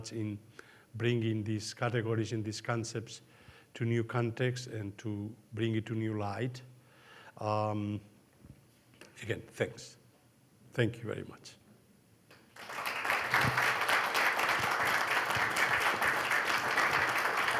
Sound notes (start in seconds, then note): 12.5 audience applauding